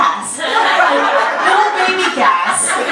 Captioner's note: audience laughter